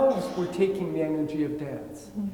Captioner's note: attendee coughing